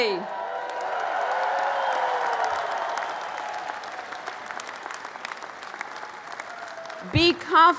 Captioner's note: applause and cheering